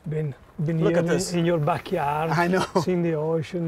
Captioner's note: chuckling